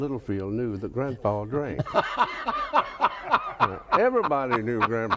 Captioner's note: laughs